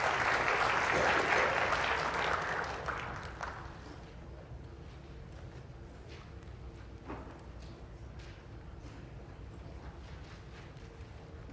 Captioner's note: applause